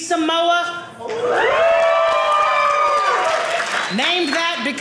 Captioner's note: audience cheering